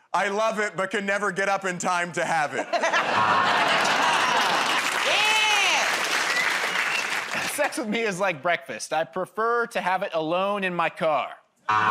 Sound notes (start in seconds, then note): 3.1 buzzer; 5.0 applause; 11.6 buzzer